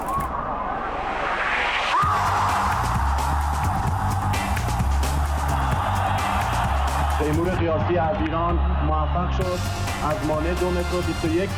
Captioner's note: applause